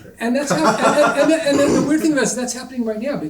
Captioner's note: panelist laughing